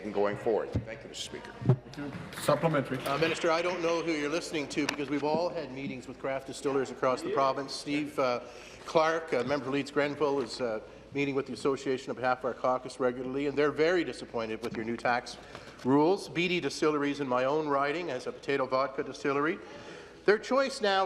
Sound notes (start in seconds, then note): none